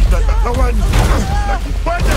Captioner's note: Amato yelps